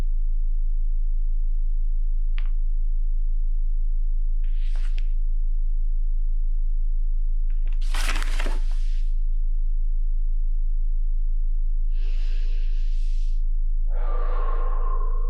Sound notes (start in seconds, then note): 4.9 paper rustles; 12.1 deep breathing